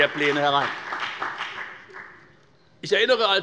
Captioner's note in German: Beifall bei der FDP